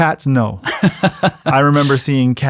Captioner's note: laughs